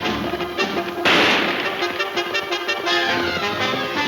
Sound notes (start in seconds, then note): 1.0 gun firing